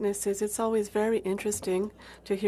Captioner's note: speaking French